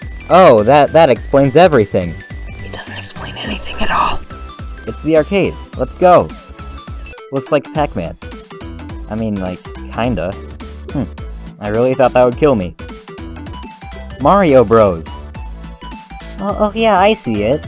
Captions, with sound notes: Oh, that explains everything! (whispers loudly) IT DOESN'T EXPLAIN ANYTHING AT ALL. It's the arcade! Let's go! "Looks like Pac-Man." I mean, like, kinda. Hm. I really thought that would kill me. "Mario Bros!" Uh, yeah, I see it.